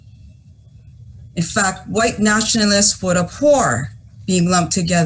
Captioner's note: foreign language